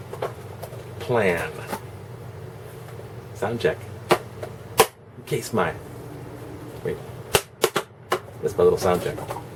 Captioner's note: two clacks